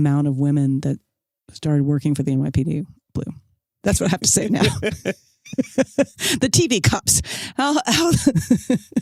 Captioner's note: laughs